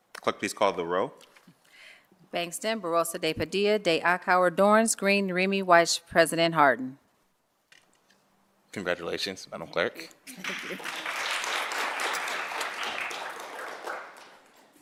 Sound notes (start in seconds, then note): 10.3 applause